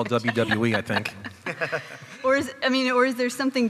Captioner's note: chuckling